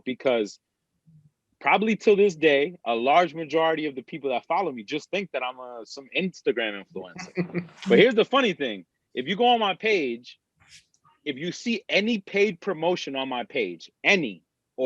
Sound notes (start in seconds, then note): 7.8 laughs